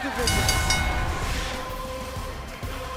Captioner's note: bell ringing